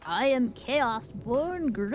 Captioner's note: humming